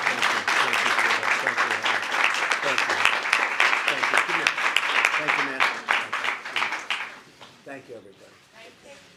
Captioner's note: applause